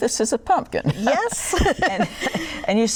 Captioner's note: laughter